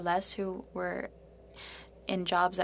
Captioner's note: speaking French